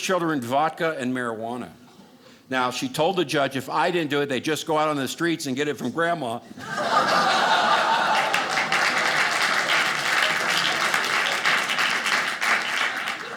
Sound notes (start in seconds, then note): 6.5 audience laughing; 8.5 audience applauding